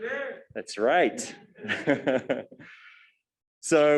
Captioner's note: laughs